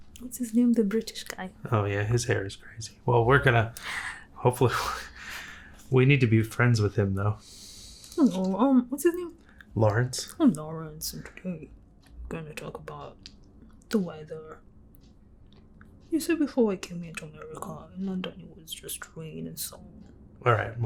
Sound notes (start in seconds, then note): 7.1 English accent